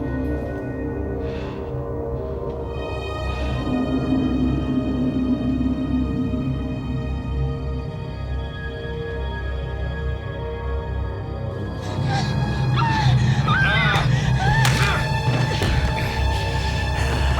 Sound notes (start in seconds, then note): 11.8 whimpering; 15.0 grunts